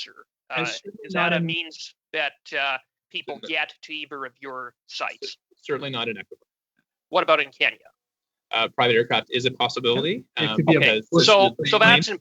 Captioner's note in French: voix de l'interprète